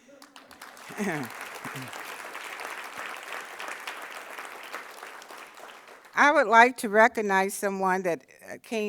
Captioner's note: applause